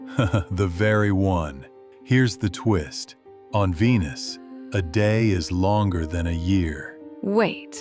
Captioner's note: chuckles